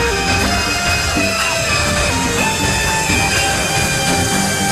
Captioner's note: airplanes roar